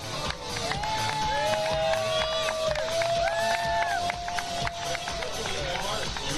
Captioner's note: crowd cheers and applauds; upbeat music